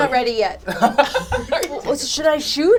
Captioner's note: laughs